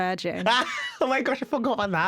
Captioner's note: laughter